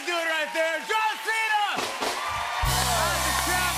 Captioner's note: cheering and applause; rimshot